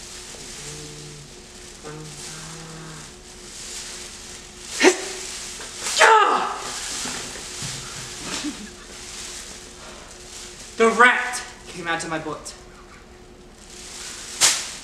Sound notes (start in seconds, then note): 1.8 chanting; 5.1 grunting; 7.8 laughs